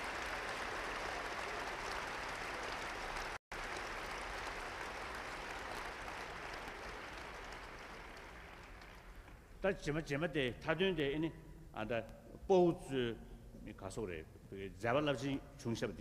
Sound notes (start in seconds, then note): 0.0 applause; 8.1 foreign words